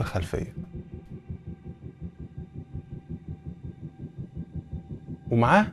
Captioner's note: drone Sound